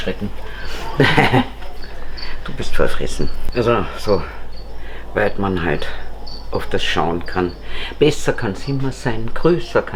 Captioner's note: laughs